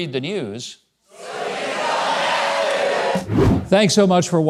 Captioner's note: audience shouting